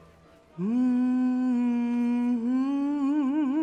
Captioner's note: humming